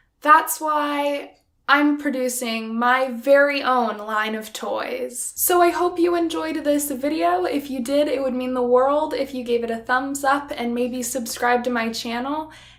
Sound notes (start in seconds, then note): none